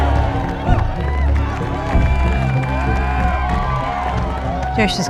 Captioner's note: crowd cheers and applauds